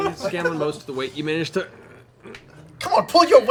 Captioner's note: strained sounds